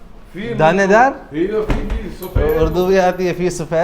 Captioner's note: Arabic